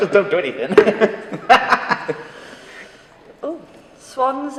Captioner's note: laughing